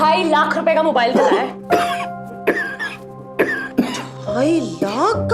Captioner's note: coughs